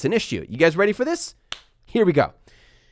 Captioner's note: claps